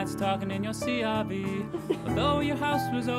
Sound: laughs

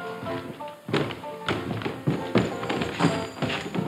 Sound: spurs clinking

